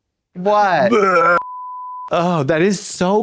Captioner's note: gags